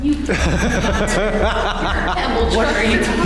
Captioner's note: laughter